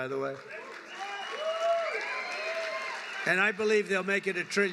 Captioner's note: applause